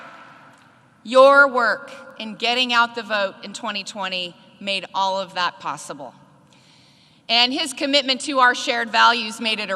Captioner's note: applause